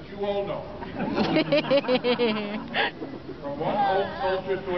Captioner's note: laughter